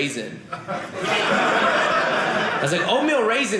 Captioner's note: audience laughing